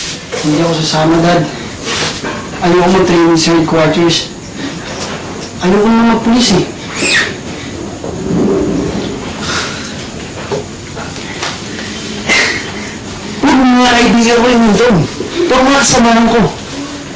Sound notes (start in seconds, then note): 9.3 Ben sighs; 12.2 Ben sighs